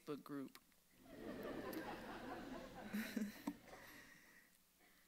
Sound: audience laughs

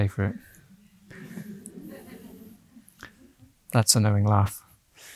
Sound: audience laughing

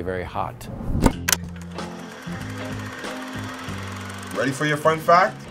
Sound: projector turning on

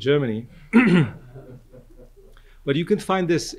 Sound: audience laughs

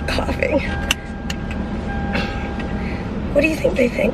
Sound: car beeping

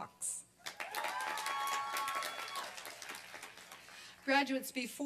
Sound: applause and cheering

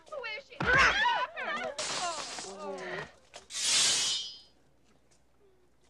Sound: hitting; yelling

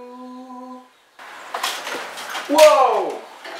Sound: singing; window crash

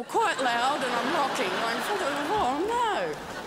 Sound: crowd laughs

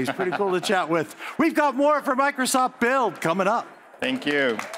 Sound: applause

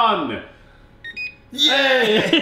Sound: oven timer chimes

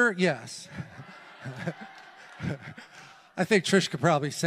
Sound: congregation applauds

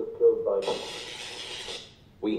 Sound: electricity noises

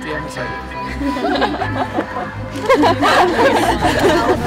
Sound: laughs

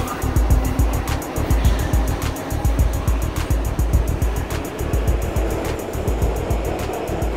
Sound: subway sounds

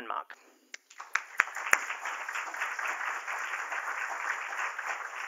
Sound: applause

